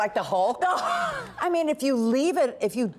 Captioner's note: laughter